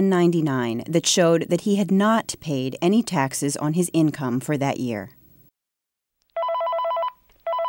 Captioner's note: phone rings